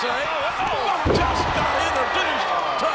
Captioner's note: bodies thud